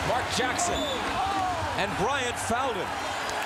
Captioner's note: whistle blows